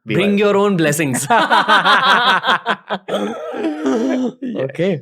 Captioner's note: laughter